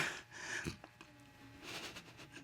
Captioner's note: sniffles